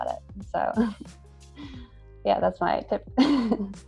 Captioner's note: laughs